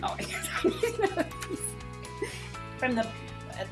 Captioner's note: laughs